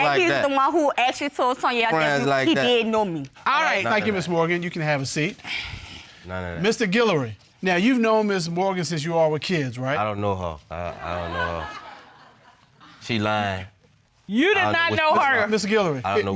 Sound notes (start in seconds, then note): 11.0 audience laughing